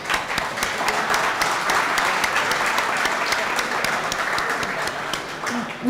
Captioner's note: applause